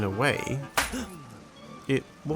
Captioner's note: impact and gasp